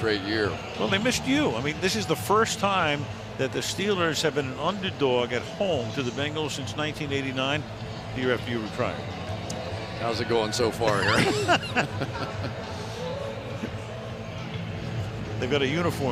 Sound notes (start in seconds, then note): 10.9 laughter